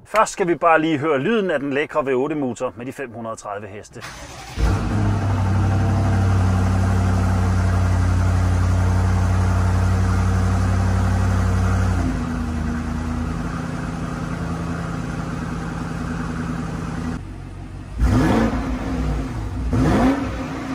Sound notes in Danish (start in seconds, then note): 6.2 Fed Bimmer V8-lyd